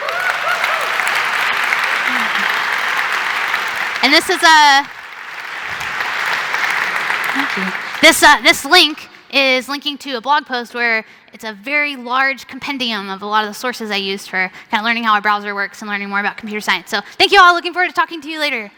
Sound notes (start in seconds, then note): 5.0 cheering and Applause